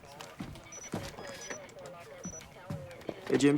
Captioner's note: alarm